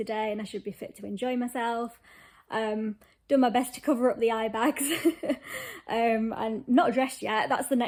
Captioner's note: laughs